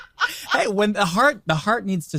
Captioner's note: group laughing